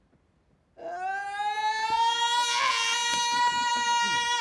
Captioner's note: cry